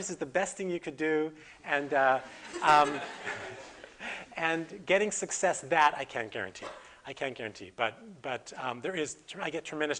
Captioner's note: audience: Laughter